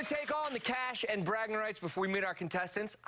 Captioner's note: cheers